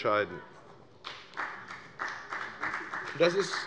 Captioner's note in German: Beifall bei der FDP